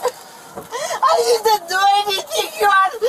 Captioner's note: crying